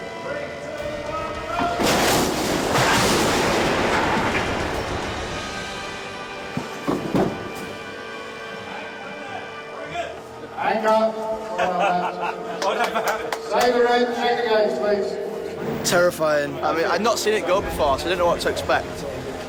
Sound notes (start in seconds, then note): 8.2 indistinct chatter; 11.4 men laughing